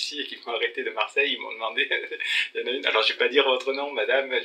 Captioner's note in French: rires* de ne plus citer de noms